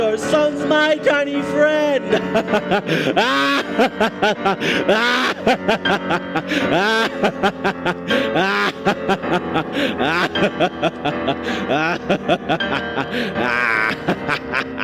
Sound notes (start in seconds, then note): 2.8 laughing